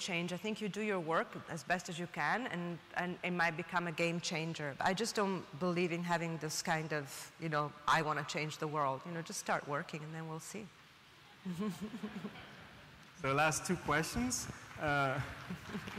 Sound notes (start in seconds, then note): 11.5 laughing